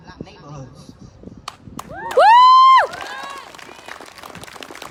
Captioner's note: whooping; applause